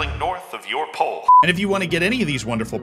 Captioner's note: normal voice